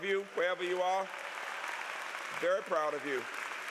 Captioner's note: applause